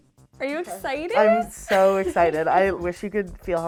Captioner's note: chuckling